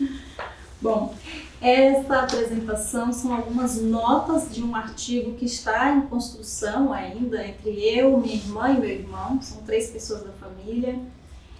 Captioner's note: speaking portuguese